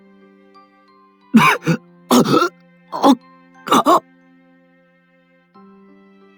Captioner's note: coughing